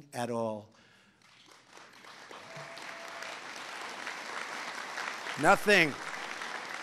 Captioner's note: applause